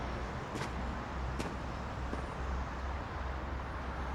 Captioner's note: footsteps